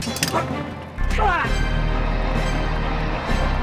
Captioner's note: man grunts